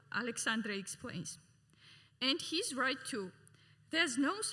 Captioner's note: none